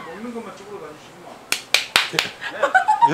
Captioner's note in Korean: 짝짝짝